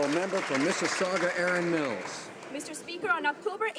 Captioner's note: some Applause